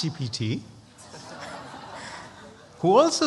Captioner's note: laughter